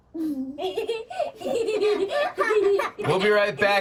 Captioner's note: laughter